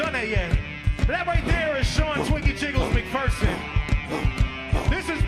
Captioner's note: cheers, whistles, & applause